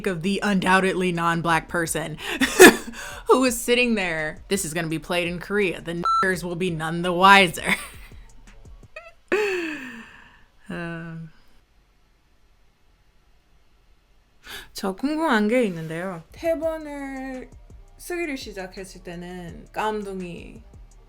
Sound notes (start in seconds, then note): 6.0 beep